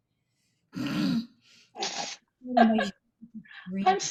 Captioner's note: laughter